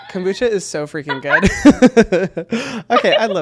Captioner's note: both laughing